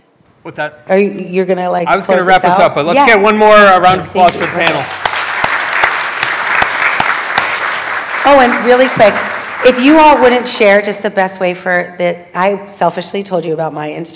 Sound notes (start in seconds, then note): 7.4 applause